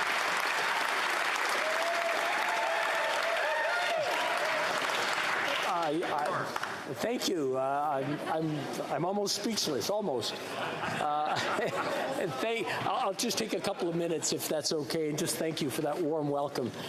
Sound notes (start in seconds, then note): 5.0 applause